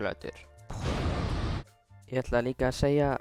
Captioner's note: boom